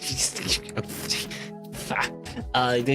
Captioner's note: laughing